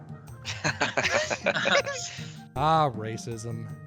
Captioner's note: all laughing